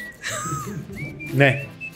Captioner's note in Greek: γέλια